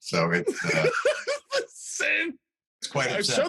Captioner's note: laughing